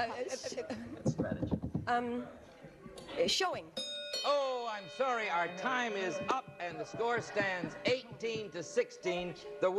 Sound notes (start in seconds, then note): 3.7 bell dings